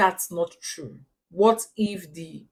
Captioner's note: paause